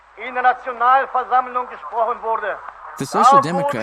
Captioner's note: speaking foreign language